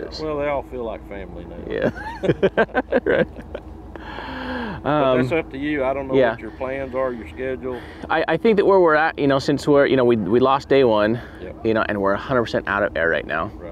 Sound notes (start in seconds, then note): 1.7 laughs; 1.8 chuckles